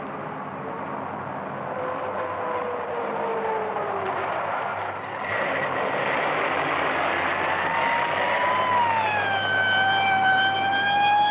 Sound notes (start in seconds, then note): 6.9 siren blaring